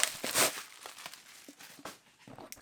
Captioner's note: ripping bubble wrap; removing package from bubble wrap